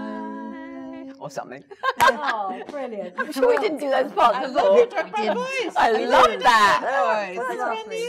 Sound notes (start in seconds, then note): 1.4 laughs